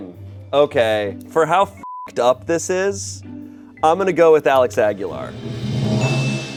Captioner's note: beep; drum roll hisses; bell chimes